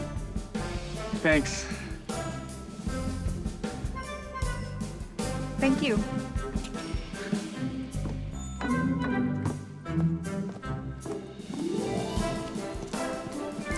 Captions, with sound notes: Thanks. Thank you. [footsteps]